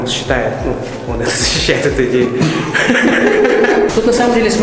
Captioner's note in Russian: смех